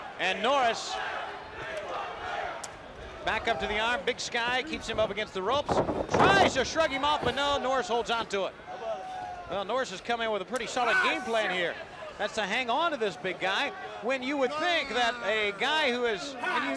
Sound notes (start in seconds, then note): 0.0 crowd chatter; 2.0 crowd chatter